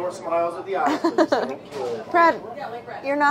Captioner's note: laughing